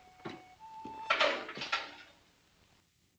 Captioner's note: door opens